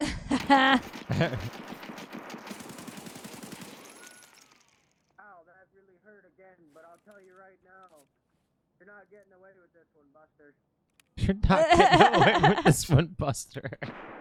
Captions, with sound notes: (laughing) - Ow, that's really hurt again, but I'll tell you right now, you're not getting away with this one, Buster. (laughing) - This one, Buster.